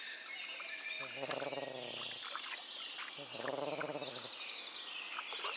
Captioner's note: crane growling